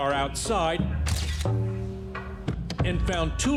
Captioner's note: camera flashes